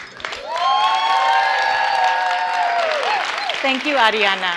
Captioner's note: audience cheering and applauding